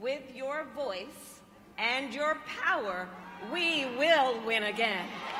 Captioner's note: applause